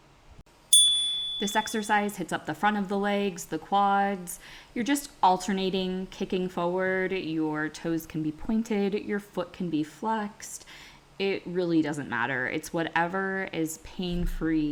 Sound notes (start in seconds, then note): 0.7 chime